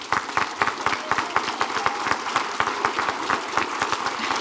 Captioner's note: audience applauding